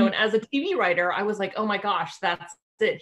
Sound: none

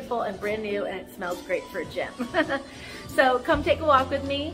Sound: chuckles

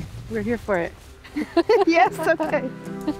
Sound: giggling

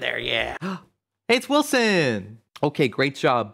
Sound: gasp

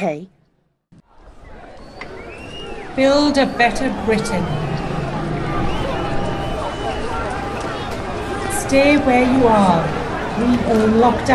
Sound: loud crowds chanting

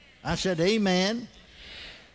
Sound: congregation: "amen."

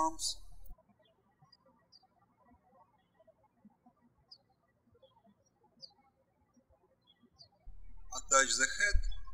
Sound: birds chirping

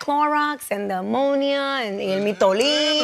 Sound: spanish

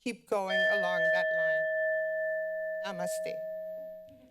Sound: bell chimes

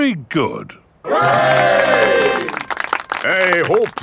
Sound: clapping

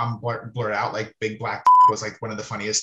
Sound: beeps

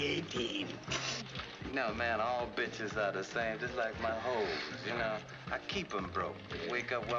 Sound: chuckles

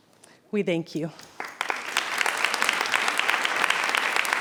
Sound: audience applauds

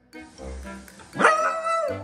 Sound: Oliver barks

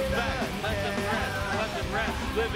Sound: protestors chanting

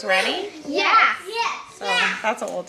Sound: children agreeing

